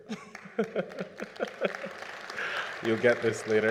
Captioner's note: applause